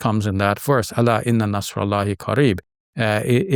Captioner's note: speaks Arabic